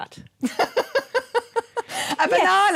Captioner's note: laughter